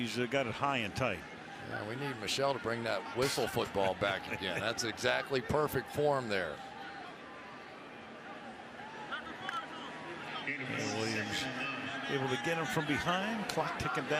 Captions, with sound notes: And now, he's got it high and tight. Yeah, we need Michele to bring that whistle football back again. That's exactly perfect form there. [onfield chatter] [pa announcement] And Williams able to get him from behind.